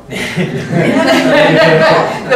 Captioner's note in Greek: γέλιο στην αίθουσα